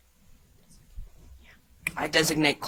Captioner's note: contestants whispering